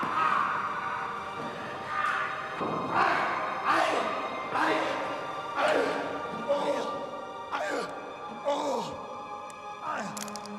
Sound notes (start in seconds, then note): 0.1 angelic music; 2.9 grunts